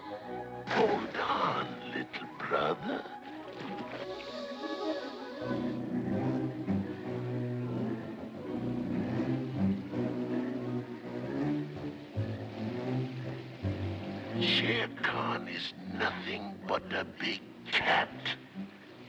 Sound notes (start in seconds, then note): 0.0 upbeat music; 0.6 splash; 3.9 ominous music